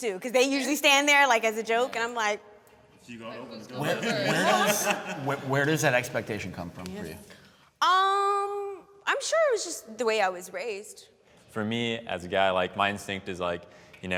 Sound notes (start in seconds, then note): 3.7 laughing